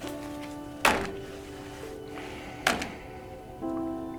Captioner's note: folder thuds